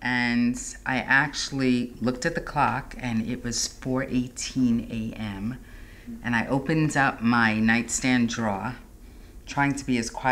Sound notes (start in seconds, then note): none